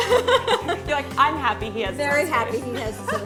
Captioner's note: laughter